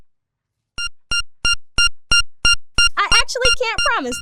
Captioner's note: machine beeping